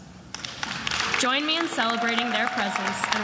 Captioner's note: attendees applauding and cheering